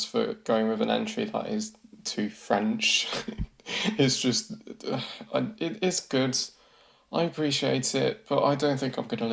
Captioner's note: chuckles